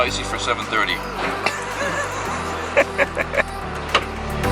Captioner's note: laughter